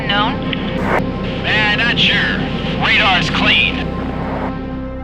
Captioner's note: voiceover